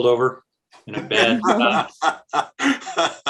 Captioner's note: laughing